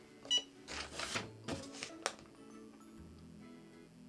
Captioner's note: beeping